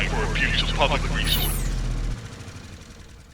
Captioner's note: power down sound